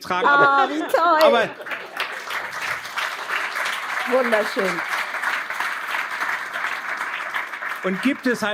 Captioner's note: applause